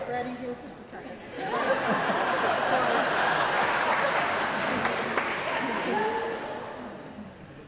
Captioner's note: audience laughing